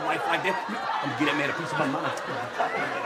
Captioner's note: audience laughing